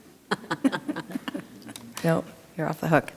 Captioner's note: board members chuckling